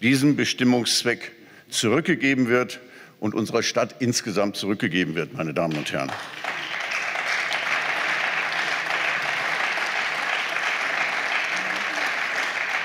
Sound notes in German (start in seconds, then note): 6.3 Beifall